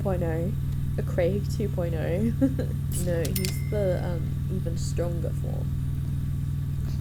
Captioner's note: laughs